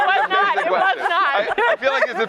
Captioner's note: laughter